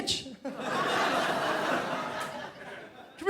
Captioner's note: crowd laughs